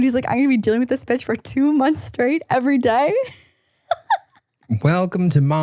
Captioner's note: laughs